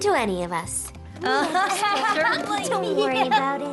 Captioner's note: laughter